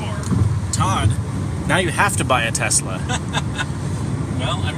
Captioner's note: laughs